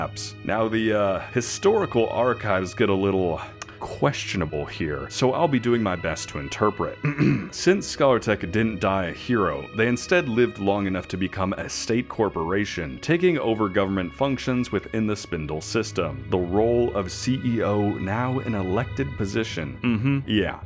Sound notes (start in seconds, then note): 7.0 ahem